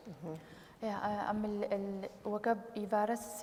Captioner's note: speaking kurdish